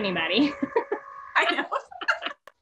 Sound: laughs

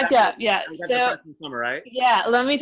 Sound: faintly speaking

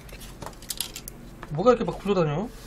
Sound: sound of screws falling

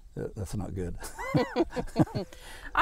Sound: laughing

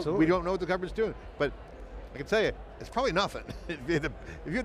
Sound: chuckles

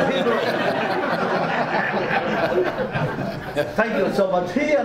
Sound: audience laughs

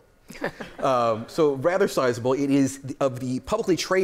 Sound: laughter

